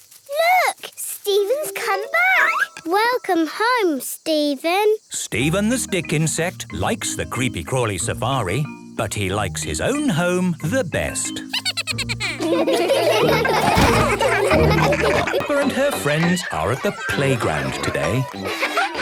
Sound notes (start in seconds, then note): 12.1 Steven giggles